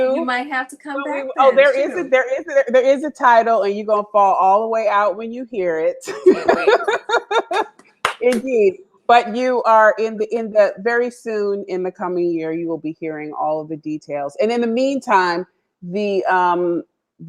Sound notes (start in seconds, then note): 6.0 laughter